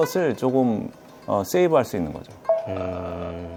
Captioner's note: can't help but laugh